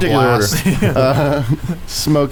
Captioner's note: laughs